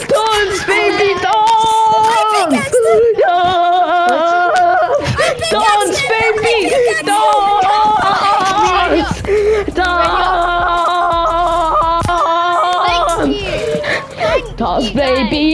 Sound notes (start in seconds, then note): 0.0 screaming and Cheering; 5.1 screaming and Cheering; 6.9 madness, cheering, screaming, singing etc etc etc etc